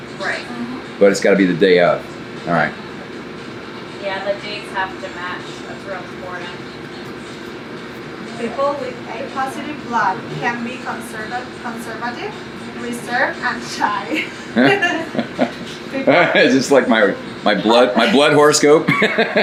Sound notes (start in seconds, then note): 14.1 laughing; 18.8 laughs